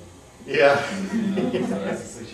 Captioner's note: laughter